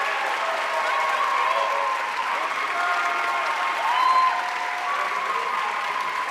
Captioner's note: audience cheering and applauding